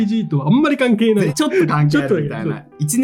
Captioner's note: laughs